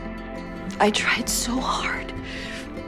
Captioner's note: voiceover